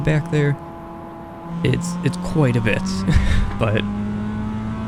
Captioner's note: chuckles